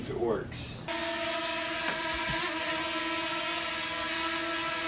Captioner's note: drone buzzing